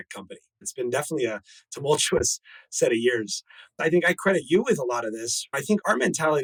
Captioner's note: laughs